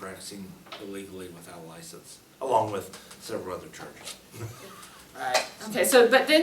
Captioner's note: laughs